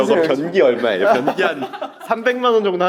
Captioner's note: laughs